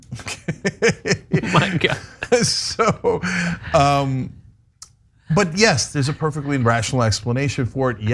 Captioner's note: laugh